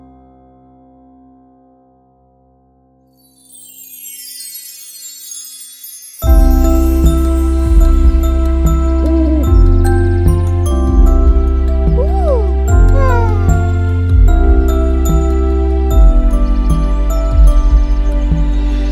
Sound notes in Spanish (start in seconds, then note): 3.1 Sonido de estrellas; 6.6 Música de cuna; 11.9 Sonido de lechuza